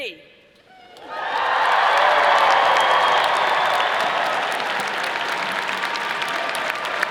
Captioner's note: all applauding; all cheering